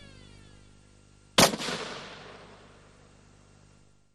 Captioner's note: gunshot